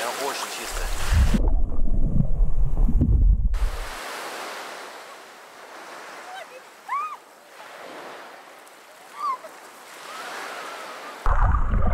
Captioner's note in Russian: шум волн